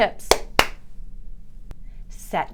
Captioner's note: hands clapping